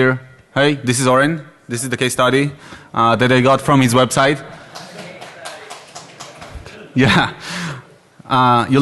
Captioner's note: clapping